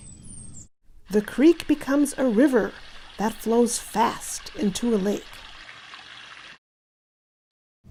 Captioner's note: stronger river sounds